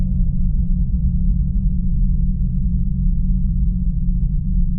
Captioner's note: low rumble continues